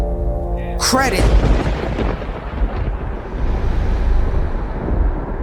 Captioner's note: thunder crashing